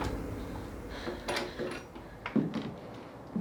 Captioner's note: door opens